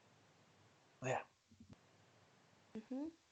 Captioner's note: whispers